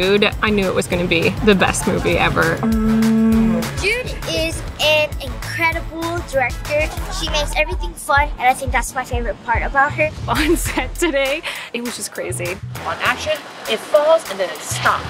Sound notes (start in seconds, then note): 2.6 shell blares